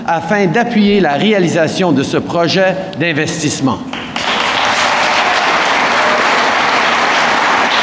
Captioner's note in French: Applaudissements